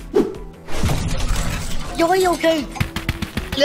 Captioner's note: loud crash; running sound